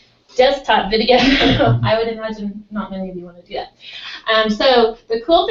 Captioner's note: laugh